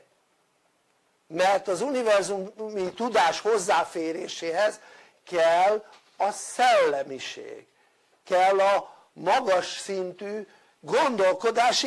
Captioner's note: Hungarian